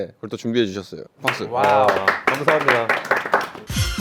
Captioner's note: A Round of Appreciative Applause